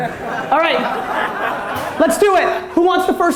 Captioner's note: audience laughter